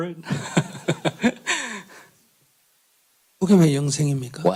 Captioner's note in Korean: 질문자 웃음